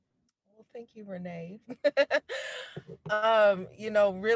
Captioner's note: laughs